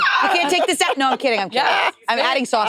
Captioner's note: participants laughing